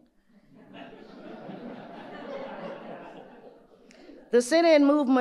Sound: audience laughing

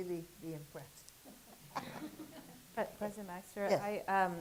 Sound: laughter

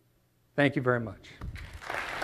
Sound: applause

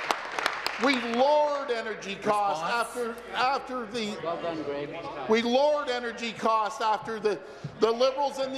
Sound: applause

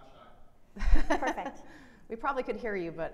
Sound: laughing

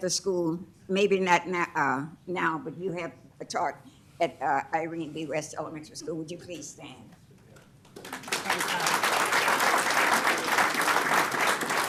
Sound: applause

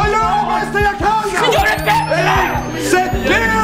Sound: panicking sounds

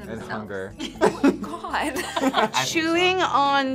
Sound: group laughs

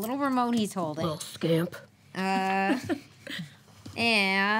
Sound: giggles

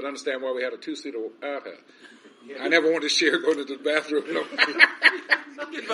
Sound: laughs

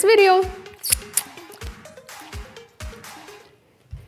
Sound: lips smack

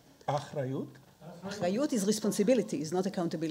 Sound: speaking in foreign language

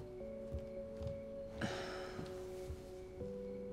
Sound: sighs

